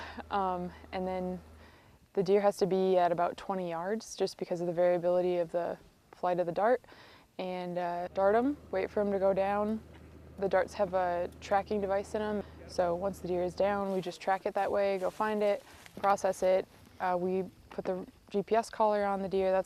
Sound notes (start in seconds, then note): none